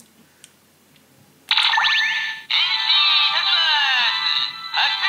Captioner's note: electronic chime